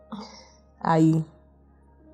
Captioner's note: surprised